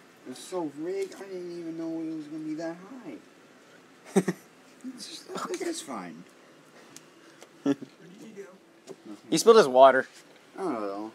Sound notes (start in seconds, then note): 4.0 chuckles